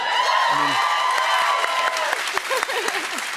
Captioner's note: cheers and applause